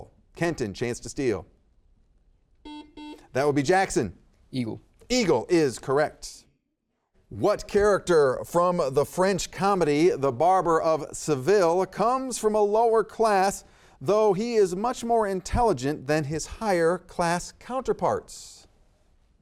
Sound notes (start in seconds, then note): 2.6 buzzer beeps